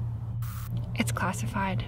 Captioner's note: static crackles